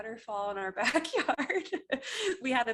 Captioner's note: laughs